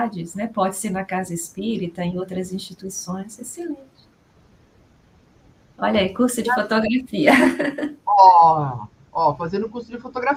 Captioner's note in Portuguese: risadas